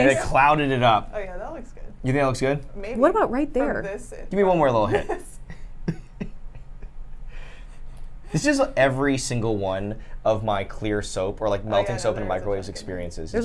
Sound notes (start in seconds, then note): 4.9 chuckles